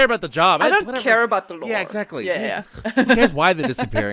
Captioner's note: laughs